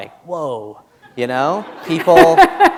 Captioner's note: laughter